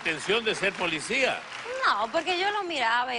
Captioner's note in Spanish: aplausos